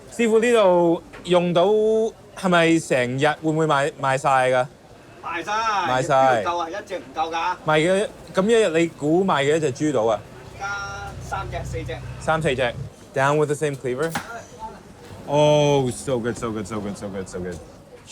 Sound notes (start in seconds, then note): 0.2 speaks in foreign language; 5.1 chef 2 speaks in foreign language; 5.9 speaks in foreign language; 6.8 chef 2 speaks in foreign language; 7.7 speaks in foreign language; 10.6 chef 2 speaks in foreign language; 12.3 speaks in foreign language; 14.0 cleaver thuds